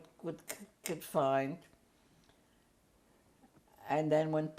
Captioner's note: pauses for 3 seconds